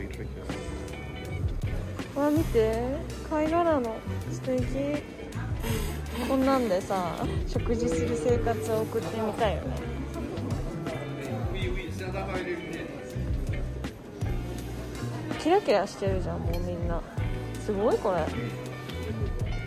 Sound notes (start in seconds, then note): 10.5 laugh